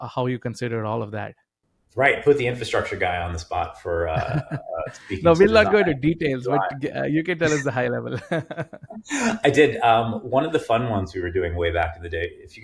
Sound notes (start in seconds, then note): 4.0 chuckling; 7.4 laughs